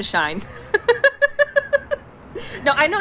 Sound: laughs

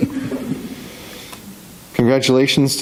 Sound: members chuckling

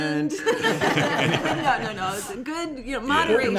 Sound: laughter

